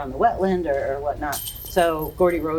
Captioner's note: chain clanking